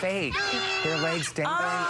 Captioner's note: screaming